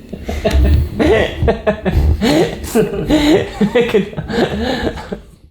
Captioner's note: laughing